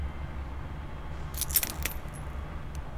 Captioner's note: glass breaks under foot